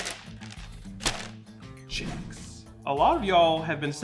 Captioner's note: bag crinkling